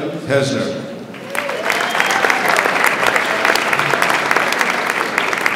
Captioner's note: audience applauds